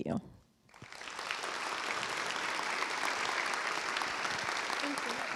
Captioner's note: applause